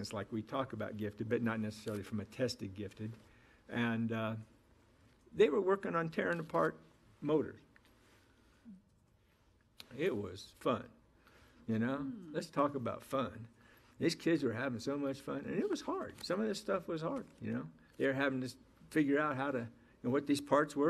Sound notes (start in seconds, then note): none